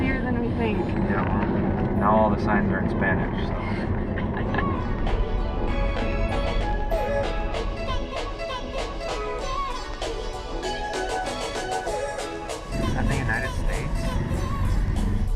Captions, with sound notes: Life is easier than we think. Ya well now all the signs are in spanish... so. [Laughing]